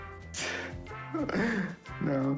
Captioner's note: chuckling